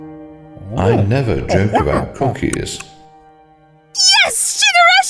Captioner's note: ape noises